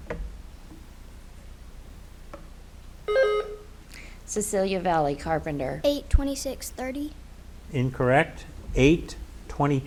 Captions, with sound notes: (buzzer beeps) - Cecilia Valley, Carpenter. - 8, 26, 30? - Incorrect. - 8, 22.